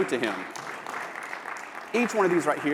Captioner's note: applause